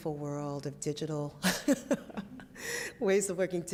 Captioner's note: laughs